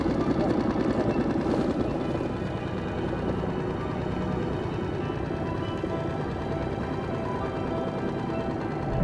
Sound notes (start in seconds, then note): 2.2 boat motor sputters; 2.2 suspenseful music